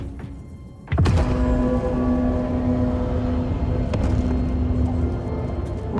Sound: deep resonant ringing

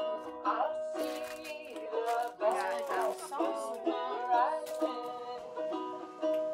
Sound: soft ukulele music continues; indistinct chatting

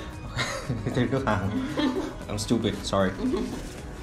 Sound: laughs and agrees; laugh

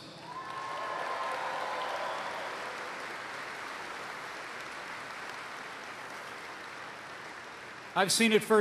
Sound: applause

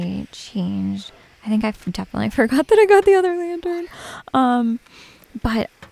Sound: giggling

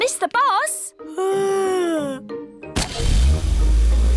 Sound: yawns

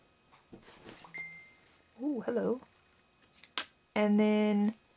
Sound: phone dings

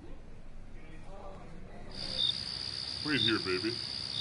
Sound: crickets

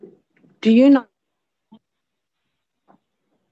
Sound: audio dropped out

